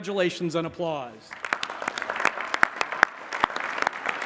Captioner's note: applause